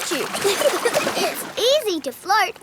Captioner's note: giggling